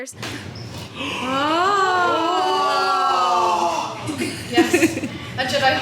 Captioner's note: guests gasping in awe